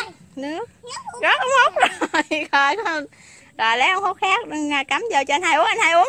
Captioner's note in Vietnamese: Tiếng cười khúc khích